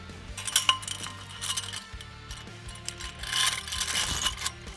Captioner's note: chain clinking